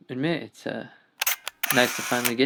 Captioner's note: camera shutter clicks